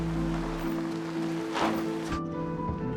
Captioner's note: engine sputtering